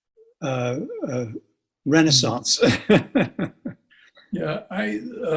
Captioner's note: laughs